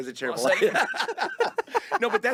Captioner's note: both laughing